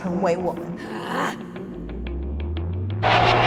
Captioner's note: Keo angry moan; sudden whoosh